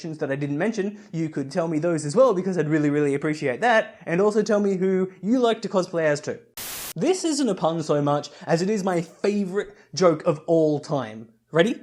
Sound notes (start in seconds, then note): 6.5 Static